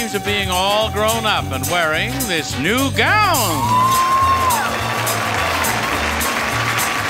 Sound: audience applauding

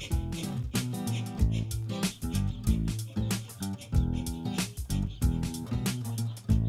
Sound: quick breathing; gentle music

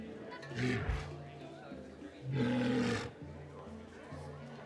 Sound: unknown alien speak

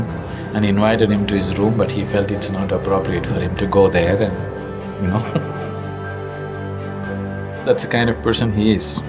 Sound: laughs

